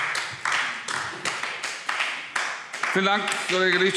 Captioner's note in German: Beifall AfD